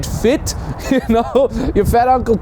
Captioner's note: laughing